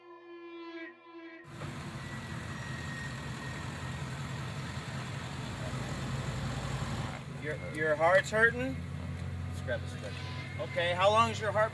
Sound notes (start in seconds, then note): 0.0 ominous Music; 1.4 ambulance Arriving